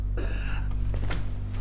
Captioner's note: burps